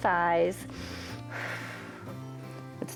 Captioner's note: inhales and exhales